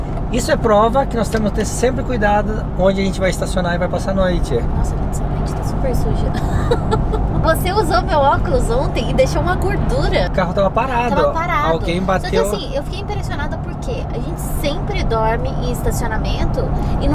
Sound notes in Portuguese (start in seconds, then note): 6.3 risos